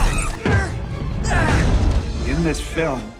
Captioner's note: grunting; shrieks; grunting